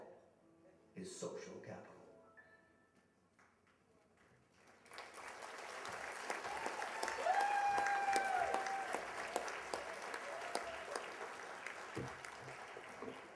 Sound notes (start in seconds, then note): 4.5 applause and cheers